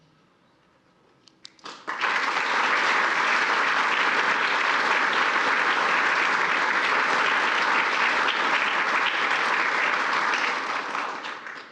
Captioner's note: applause